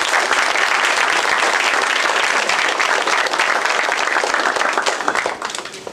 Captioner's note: applause